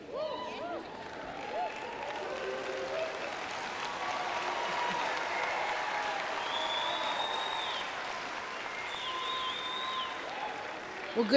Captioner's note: cheers